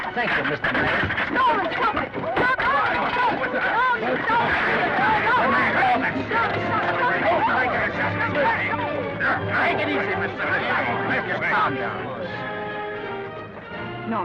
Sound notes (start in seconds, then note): 7.2 men yelling; 12.7 orchestral music